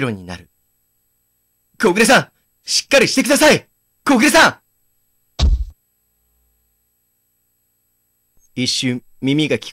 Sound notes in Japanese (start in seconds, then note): 5.4 体への衝撃音：ドン！